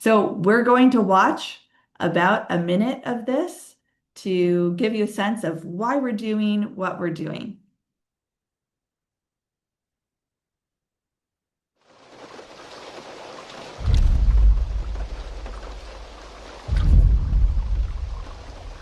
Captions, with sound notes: So, we're going to watch about a minute of this to give you a sense of why we're doing what we're doing. (water rushing) (thunder rumbling)